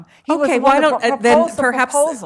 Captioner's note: chattering